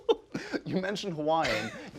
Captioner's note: laughs